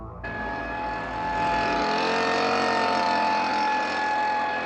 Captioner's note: leaf blower rumbling